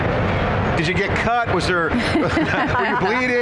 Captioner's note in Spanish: Risas